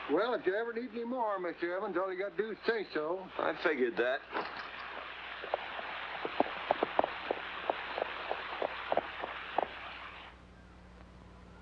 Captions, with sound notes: Well, if you ever need any more, Mr. Evans, all you got to do is say so. - I figured that. (hooves trotting)